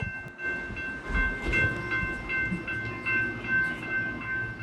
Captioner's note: train bell ringing